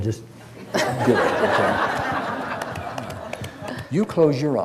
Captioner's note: audience laughs